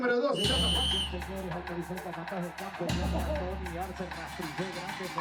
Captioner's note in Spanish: Audio hablado en español